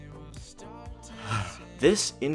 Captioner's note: sigh